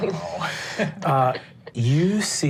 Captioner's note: giggles